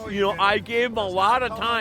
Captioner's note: voiceover